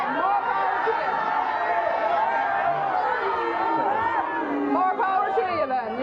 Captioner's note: audience yells